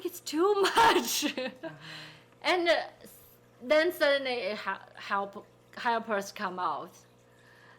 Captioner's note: laughing